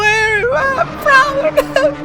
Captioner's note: sobs